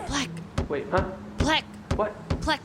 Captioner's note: whispering; starts thumping the ground; whispering